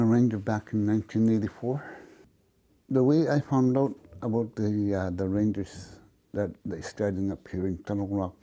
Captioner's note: speaking Indigenous Language